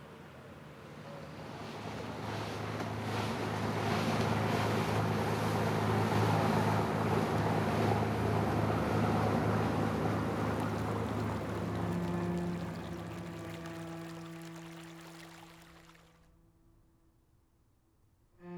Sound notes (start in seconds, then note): 1.6 waves crashing; 11.7 somber classical music